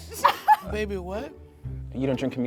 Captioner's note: laughing